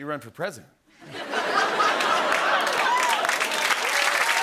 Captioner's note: laughter, cheers, applause